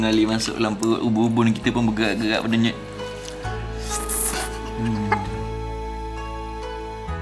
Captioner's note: laugh